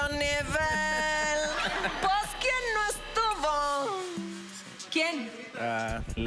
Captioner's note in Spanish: Imita voz de él